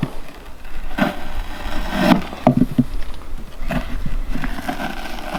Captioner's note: knife scraping